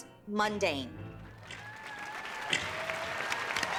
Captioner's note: applause and cheering